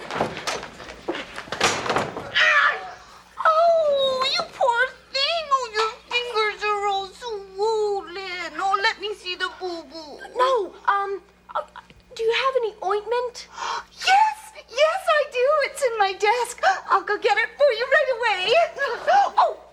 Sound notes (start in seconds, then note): 2.6 Ethan cries out; 14.0 gasps